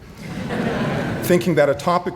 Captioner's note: audience laughing